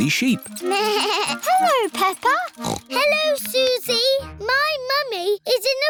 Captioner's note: bell ringing; snorts; bleats